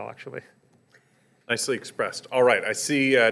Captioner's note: voiceover